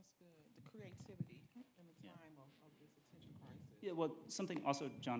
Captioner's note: speaking faintly